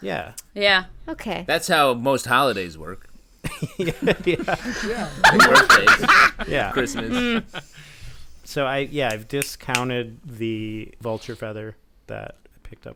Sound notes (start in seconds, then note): 3.4 laughter; 5.3 cackle